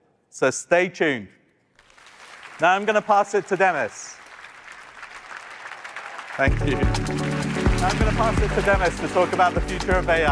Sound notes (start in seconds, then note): 6.8 applause